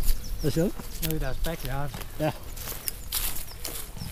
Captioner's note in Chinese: 丹麥語